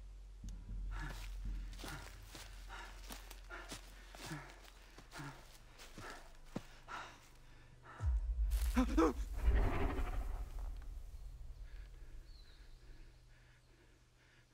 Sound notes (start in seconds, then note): 0.4 man breathes heavy; 7.8 man gasps; 8.5 leaves rustle; 9.2 dinosaur growls